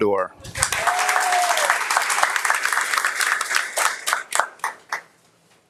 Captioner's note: audience applauding and cheering